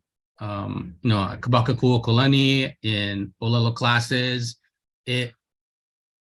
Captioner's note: speaks in Hawaiian